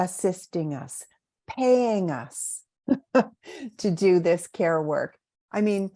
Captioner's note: laughs